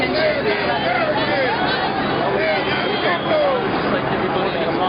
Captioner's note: ambient chatter